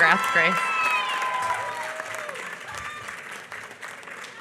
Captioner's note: applause